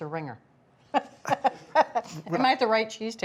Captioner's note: laughs